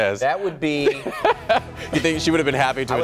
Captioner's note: laughter